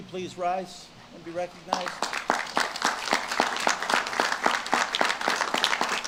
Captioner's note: audience claps